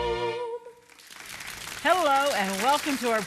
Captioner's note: audience clapping